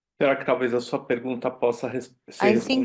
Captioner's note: speaking Portuguese